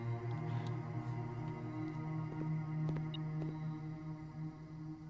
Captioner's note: beeping